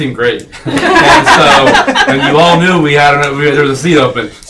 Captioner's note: laughing